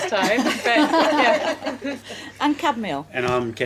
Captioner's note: laughing